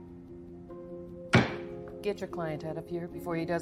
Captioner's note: gavel slams